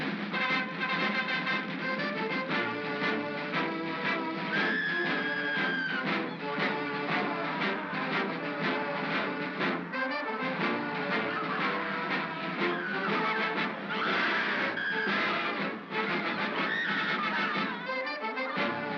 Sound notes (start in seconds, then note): 4.5 triumphant music; 4.6 Bo Peep screams; 7.2 triumphant music; 13.8 Bo Peep screams; 13.8 triumphant music